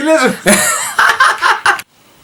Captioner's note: laughter